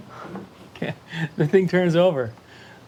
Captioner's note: laughing